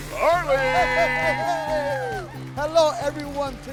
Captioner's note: all clapping and cheering